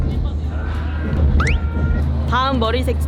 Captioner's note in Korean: 꺅!